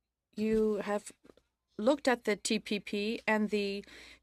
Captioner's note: speaking French